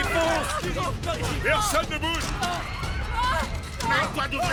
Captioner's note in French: les gens crient